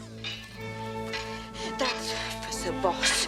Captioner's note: gasping